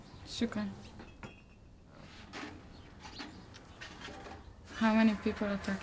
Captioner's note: speaking foreign language